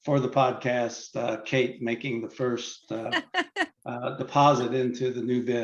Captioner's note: laughs